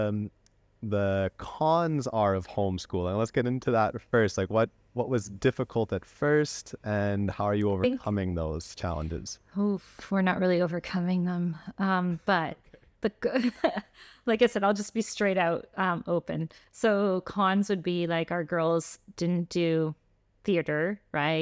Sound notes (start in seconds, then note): 13.3 laughter